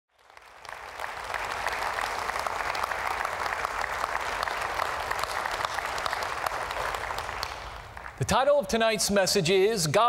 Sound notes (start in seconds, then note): 0.0 applause